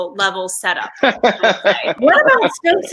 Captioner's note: group laughing